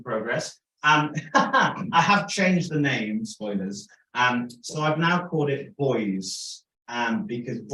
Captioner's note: laughter